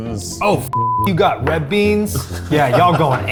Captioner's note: beep